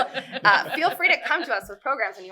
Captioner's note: laughter